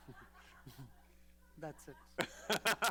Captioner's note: laughter